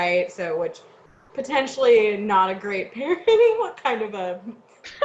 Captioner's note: laughs